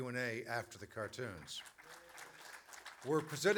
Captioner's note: applause, cheers